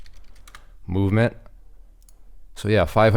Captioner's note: keyboard clicking